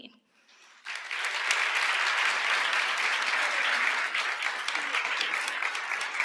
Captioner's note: applause